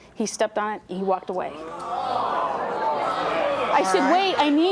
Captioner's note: audience jeering